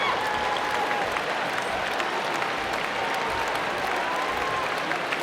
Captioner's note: applause